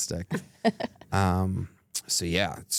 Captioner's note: chuckles